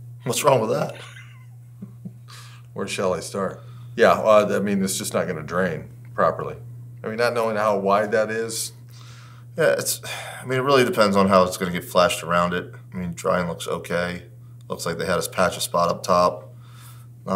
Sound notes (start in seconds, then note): 0.8 laughs